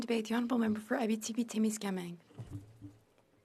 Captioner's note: speaking French